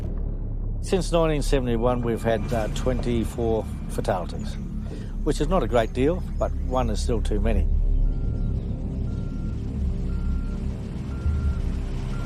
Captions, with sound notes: - Since 1971, we've had 24 fatalities, which is not a great deal, but one is still too many. (alarm beeping)